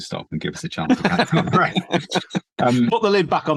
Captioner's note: laugh